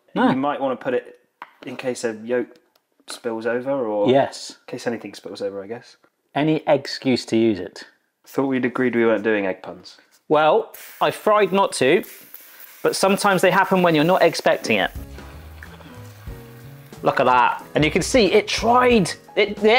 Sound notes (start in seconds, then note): 14.4 gentle jazz music; 15.4 grill sizzling